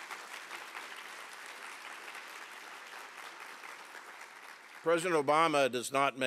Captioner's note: applause